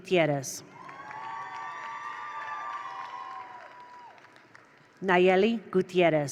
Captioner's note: attendees cheer; attendees applaud